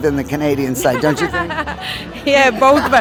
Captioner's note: laughing